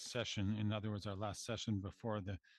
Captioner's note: speaking French